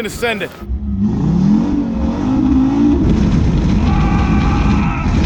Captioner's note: engine revs up